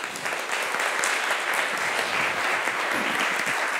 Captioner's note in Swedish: Applause